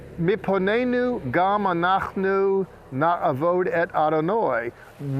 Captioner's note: speaking in Hebrew